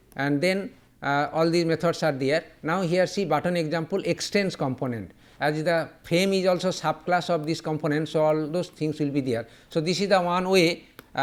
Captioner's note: click